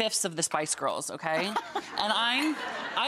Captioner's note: Rachael and audience laughing